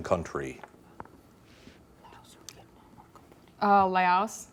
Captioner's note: whispering